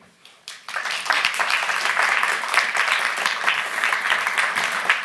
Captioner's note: audience clapping